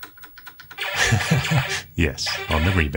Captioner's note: laughs